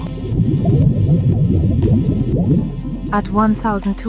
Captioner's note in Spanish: ambiente submarino